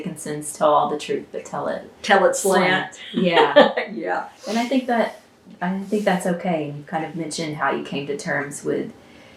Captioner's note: laughter